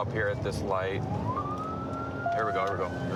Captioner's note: sirens